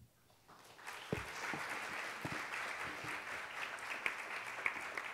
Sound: audience applauds

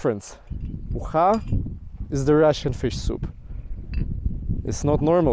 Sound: speaking in foreign language

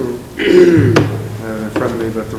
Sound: clearing throat

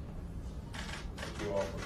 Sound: camera shutters

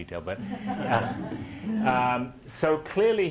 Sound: audience laughing

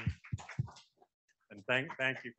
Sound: audience clapping

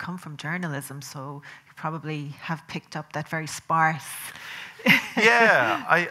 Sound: laughing

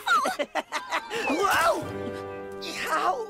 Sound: chuckles

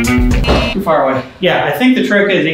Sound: upbeat music continues; buzzer beeps

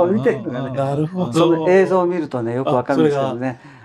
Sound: laughs

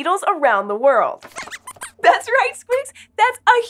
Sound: squeaks squeaks excitedly

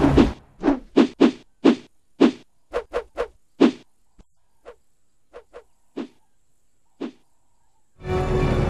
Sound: sound of punches in the air; creepy music

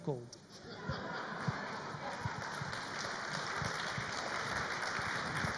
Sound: audience laughs and applauds

